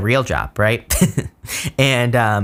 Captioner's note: chuckles